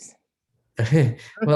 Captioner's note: chuckling